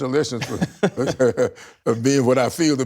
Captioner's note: laughter